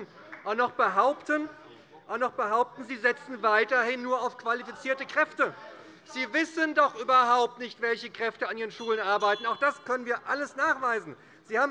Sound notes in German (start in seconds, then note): 8.8 Unruhe - Glockenzeichen des Präsidenten